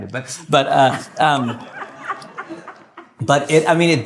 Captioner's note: laughter